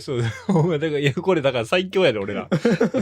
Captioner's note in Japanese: 笑い